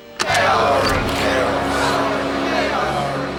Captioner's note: chanting